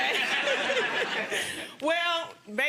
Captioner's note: laughing